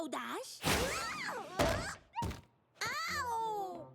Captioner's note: whoosh